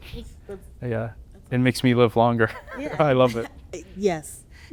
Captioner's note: laughter